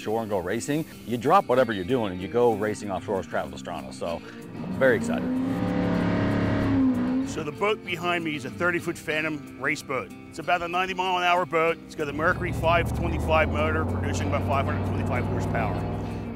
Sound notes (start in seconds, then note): 5.2 jetboat sounds